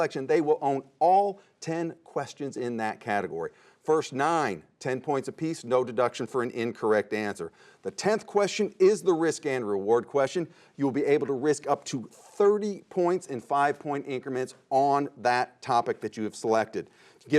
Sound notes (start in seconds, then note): none